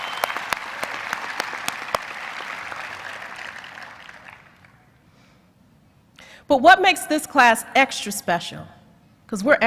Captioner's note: cheers and applause